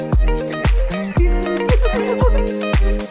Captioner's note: laughs